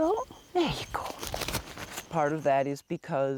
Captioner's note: bat wings fluttering